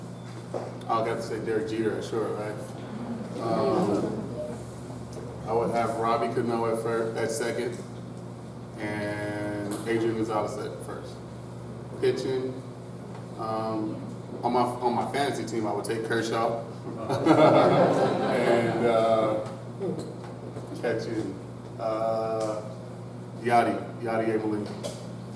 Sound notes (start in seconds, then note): 17.0 laughter